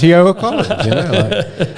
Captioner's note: laughing